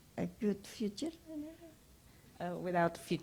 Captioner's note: speaks Indonesian